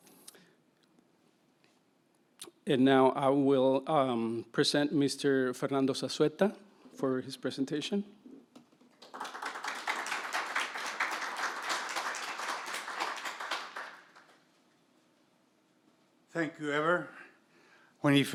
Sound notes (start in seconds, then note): 8.9 audience applauding